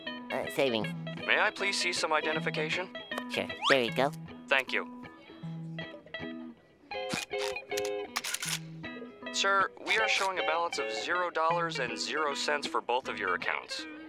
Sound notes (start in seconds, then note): none